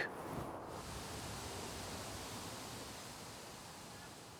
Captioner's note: water rushing